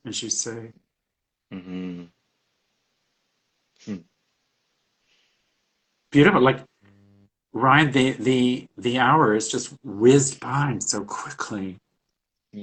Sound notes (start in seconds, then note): 3.8 chuckles